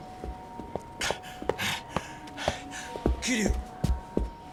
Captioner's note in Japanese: 荒い息